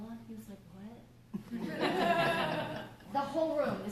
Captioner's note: laughter